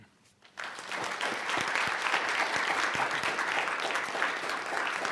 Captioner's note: audience applauding